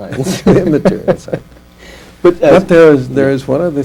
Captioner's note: laughter